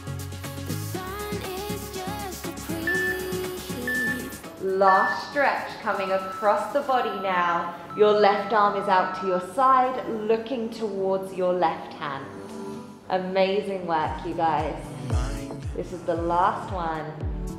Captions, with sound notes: (timer ringing) Last stretch, coming across the body now. Your left arm is out to your side looking towards your left hand. Amazing work, you guys. This is the last one.